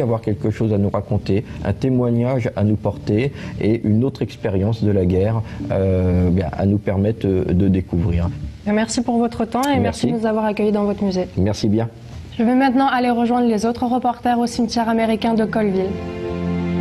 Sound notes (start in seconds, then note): 8.5 speaks in a foreign language; 16.6 gentle music